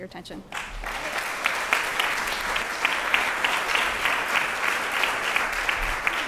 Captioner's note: applause